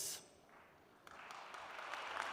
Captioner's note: applause